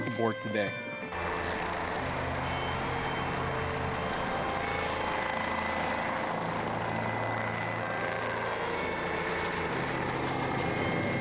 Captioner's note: chopper sound